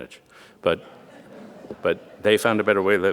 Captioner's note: audience laughing